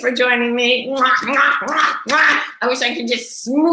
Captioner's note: blowing kisses